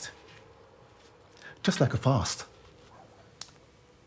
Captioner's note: dog barking